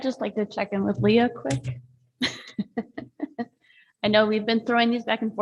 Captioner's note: laughs